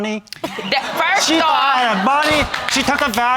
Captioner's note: audience laughing